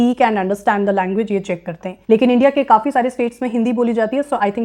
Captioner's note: speaking hindi